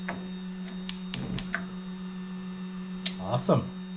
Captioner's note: gun clicking